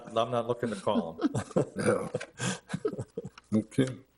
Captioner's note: all laughing